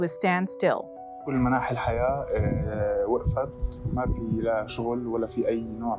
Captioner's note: speaking in foreign language